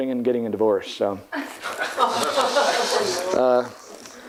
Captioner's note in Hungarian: Nevetés